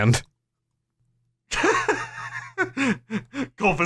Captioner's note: laughter